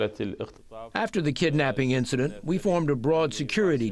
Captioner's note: through translator